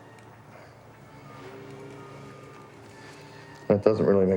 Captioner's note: Richard breathing heavily